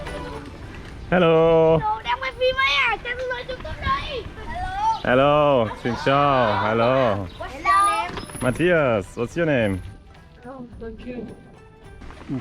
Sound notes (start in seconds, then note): 8.4 speaking Vietnamese